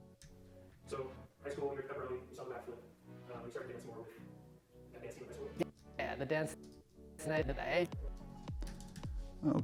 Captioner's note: fast-forwarded audio